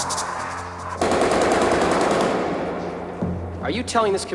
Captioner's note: gun firing